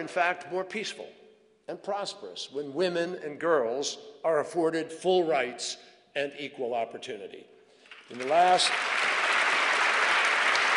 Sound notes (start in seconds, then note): 7.8 applause